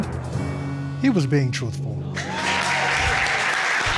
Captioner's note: audience applauds, cheers